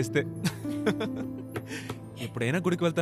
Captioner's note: Laughs